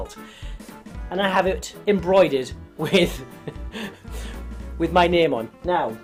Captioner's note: laughs